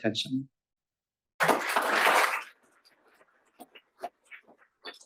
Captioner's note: applause